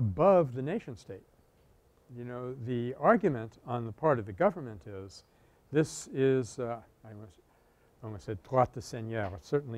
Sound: French

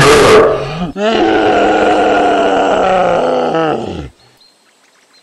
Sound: screaming in pain

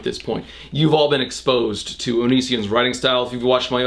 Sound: none

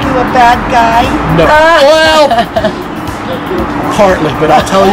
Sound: girl laughs

